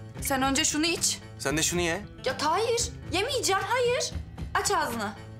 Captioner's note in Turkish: none